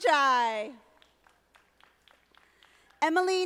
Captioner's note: audience applauding